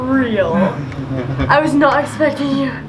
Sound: laughing

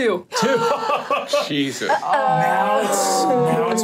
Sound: laughs

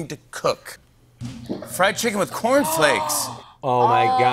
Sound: gasps

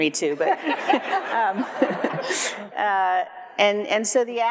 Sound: everyone laughs

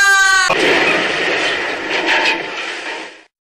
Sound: c r a s h!

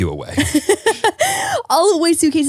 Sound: laughs

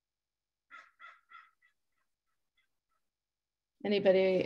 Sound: crow caws

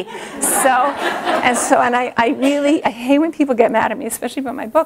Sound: laughter

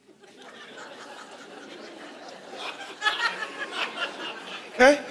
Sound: congregation laughing

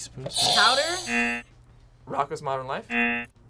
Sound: buzzer rings; buzzer rings

